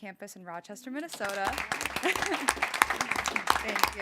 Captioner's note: board applauding